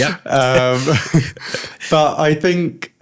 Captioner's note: laughter